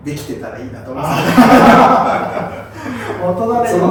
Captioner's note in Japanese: 爆笑